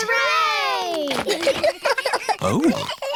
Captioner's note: giggles